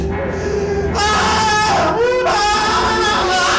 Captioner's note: man hollers